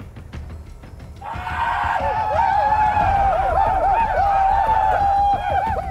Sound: shoshone shouting

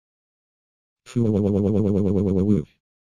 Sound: slurrrrrrrrp

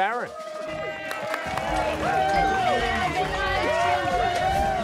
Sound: cheers and applause

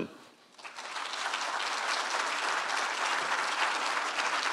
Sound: applause

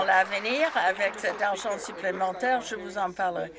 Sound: some Applause

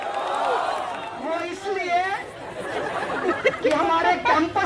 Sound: crowd roars - why?

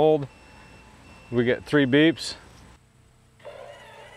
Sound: operator beeping; gates buzzing

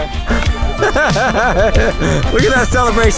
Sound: host laughing

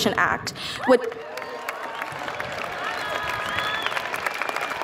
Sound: audience applauds

